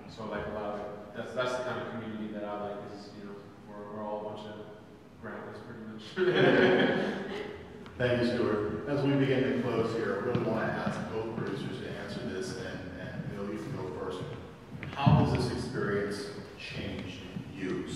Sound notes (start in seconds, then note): 6.1 everyone laughs